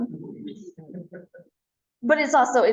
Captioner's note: laughter